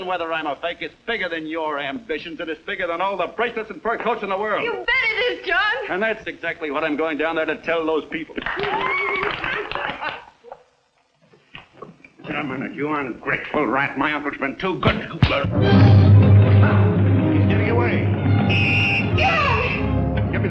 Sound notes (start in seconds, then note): 8.4 applauding; 14.8 thumping; 15.4 suspenseful music; 18.3 whistle blowing